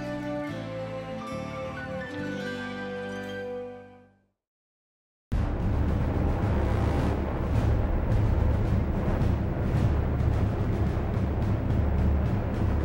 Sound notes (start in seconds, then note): 5.3 dramatic music; 5.4 planes running